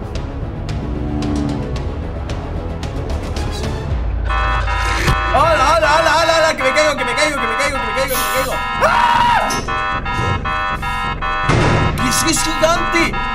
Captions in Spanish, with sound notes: Que es eso? Alá, alá, alá Que me caigo! que me caigo, que me caigo! Que me caigo que me caigo! (Grita) Que si es gigante!